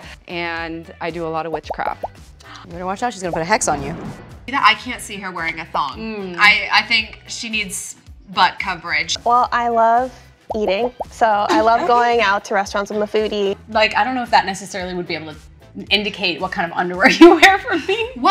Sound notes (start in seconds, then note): 3.3 thunder crackling; 17.1 laughs